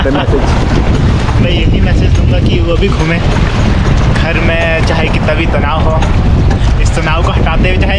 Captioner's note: laughs